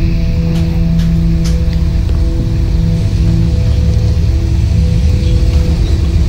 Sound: car drives

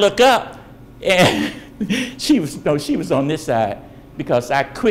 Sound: laughs

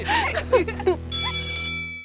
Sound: laughing; bell ringing

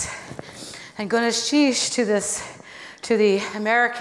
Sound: foreign speaking

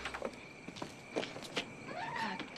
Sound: door closes

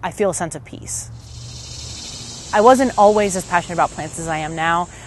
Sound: insects buzzing, birds chirping

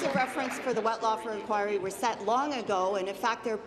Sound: applause

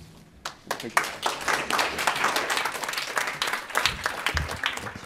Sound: audience applauding

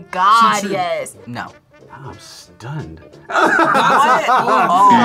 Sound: laughs

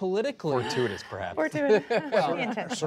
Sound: laughter

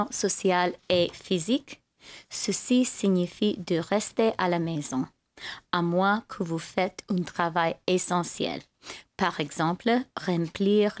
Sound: speaking french

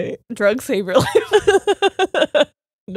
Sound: both laughing

